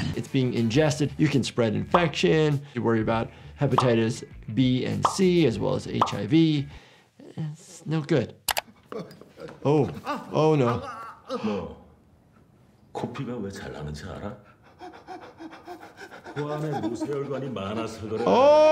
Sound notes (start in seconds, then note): 8.5 mouse clicks; 8.8 man clamoring; 11.0 gasps; 11.7 man speaking in foreign language; 14.5 man panting; 16.5 man continues speaking in foreign language